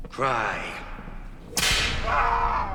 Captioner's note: whip lashing; groaning